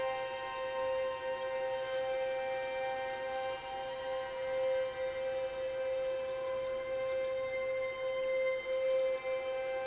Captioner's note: birdsong, Wind